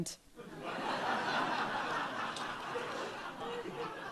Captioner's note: audience laughs